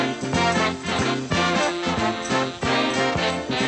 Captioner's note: none